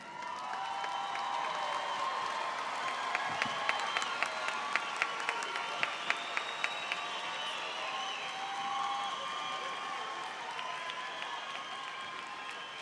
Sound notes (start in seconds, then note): 0.7 attendees cheering